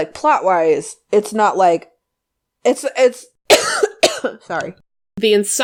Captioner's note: coughs